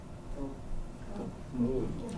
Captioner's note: chatter